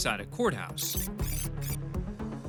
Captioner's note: computer beeps